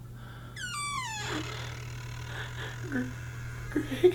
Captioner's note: door creaking